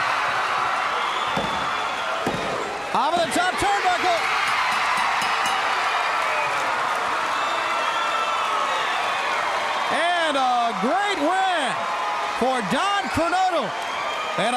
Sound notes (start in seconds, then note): 0.2 crowd chatter; 4.4 bell ringing; 6.8 crowd cheering